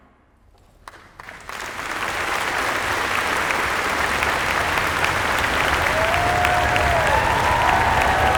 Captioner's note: crowd applauding and cheering